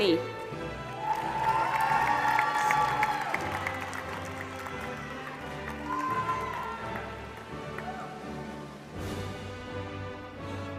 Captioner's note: applause